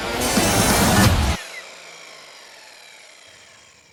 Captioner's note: saw whirs; upbeat instrumental music